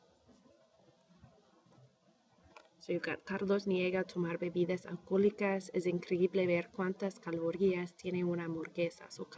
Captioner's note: speaking spanish